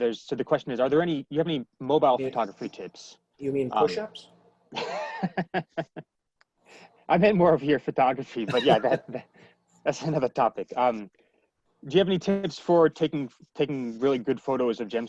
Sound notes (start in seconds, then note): 4.8 laughing